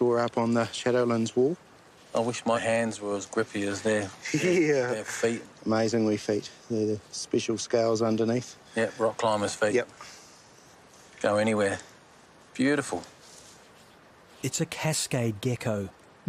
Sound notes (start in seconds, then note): 4.1 laughs